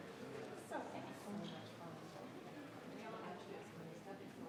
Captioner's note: group quietly conversing